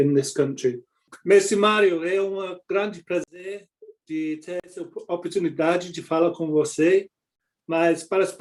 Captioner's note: in Portuguese